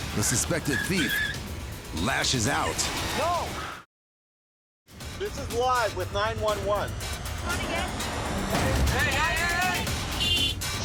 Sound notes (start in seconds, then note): 0.3 tires screeching; 8.9 horn blaring